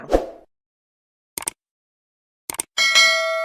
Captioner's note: mouse clicks; bell rings